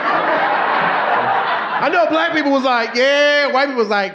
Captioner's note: audience laughing